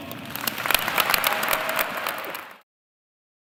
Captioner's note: audience applauds